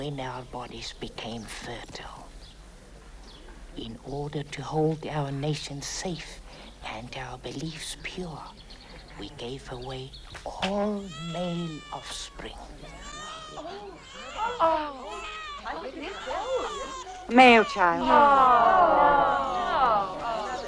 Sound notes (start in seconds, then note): 12.1 baby crying; 12.3 onlookers excitedly murmur; 19.1 murmuring